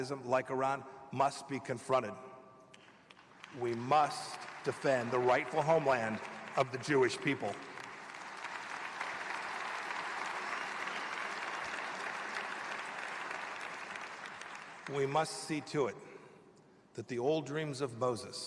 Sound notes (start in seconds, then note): 11.1 applause